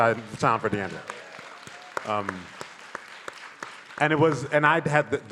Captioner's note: audience applauding